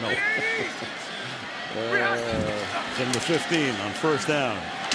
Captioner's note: laughs